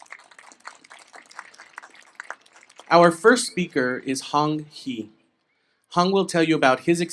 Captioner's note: applause